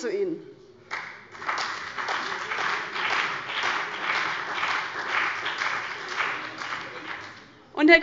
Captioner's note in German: Beifall bei dem BÜNDNIS 90/DIE GRÜNEN und der CDU